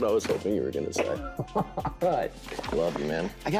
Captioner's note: laughing